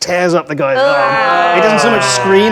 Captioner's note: group groans